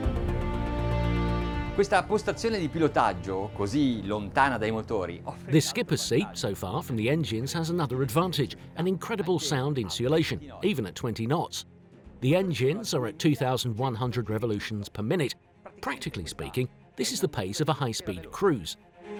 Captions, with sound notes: (speaking in a foreign language) The skipper seat, so far from the engines, has another advantage, an incredible sound insulation, even at 20 knots. The engines are at 2,100 revolutions per minute. Practically speaking, this is the pace of a high speed cruise.